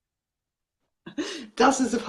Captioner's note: laughs